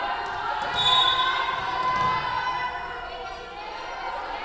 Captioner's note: whistle blowing